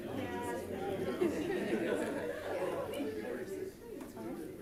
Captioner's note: chattering continues